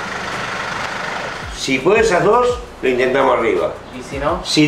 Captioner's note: in Spanish